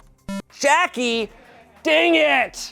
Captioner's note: electronic boop